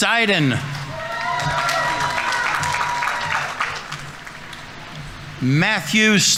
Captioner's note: audience members cheering; audience applauding